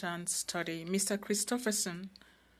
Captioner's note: speaking French